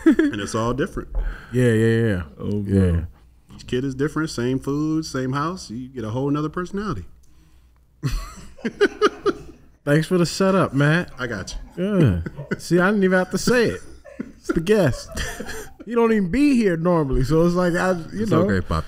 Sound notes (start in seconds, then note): 8.0 laughs; 15.1 crew laughing